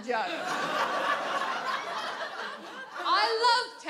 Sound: audience laughs

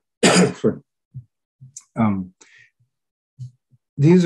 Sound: coughing

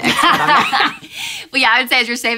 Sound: laughing

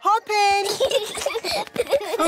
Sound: peppa and george giggling

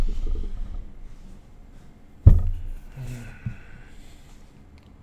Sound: ahem

